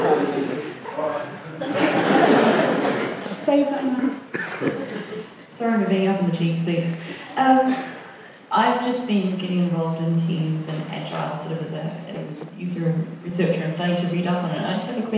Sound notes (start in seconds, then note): 0.9 laughing; 5.7 voiceover